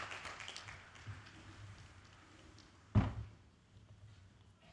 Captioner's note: applause